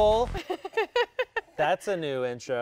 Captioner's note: laughing